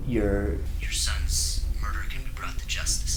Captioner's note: Jim's Voice Though Phone